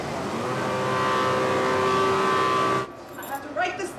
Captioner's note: loud buzzing